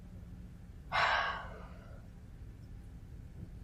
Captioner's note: sighs